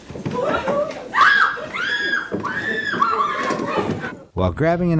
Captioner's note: people shouting